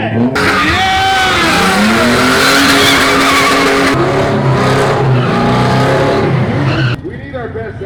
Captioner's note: car engine roaring; tires squealing